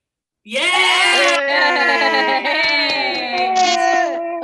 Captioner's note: all cheering